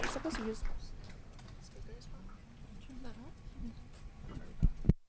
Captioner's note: lady speaking off mic